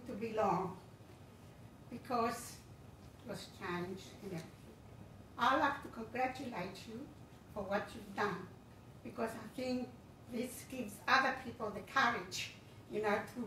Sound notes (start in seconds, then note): none